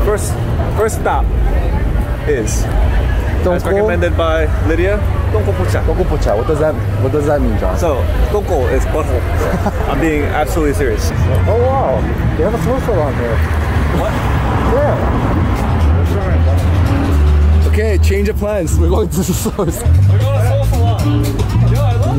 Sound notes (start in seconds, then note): 9.2 laughing